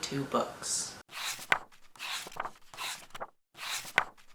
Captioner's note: pages turning